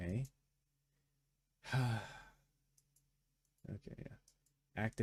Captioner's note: sighs